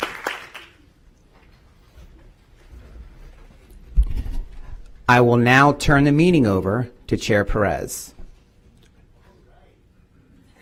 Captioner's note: applause